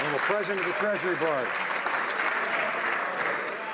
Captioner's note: some Applause